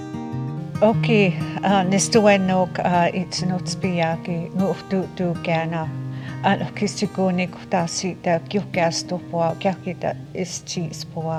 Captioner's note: speaking Blackfoot